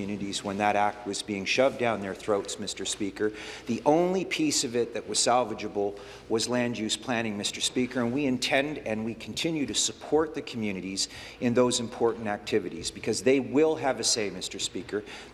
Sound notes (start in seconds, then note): none